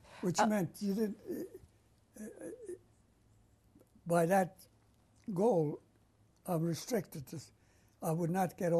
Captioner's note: pauses for 3 seconds